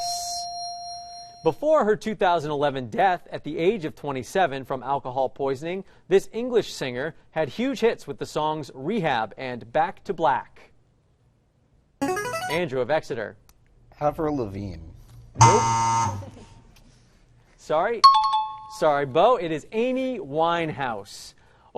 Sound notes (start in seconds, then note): 12.0 chiming